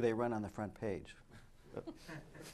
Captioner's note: laughter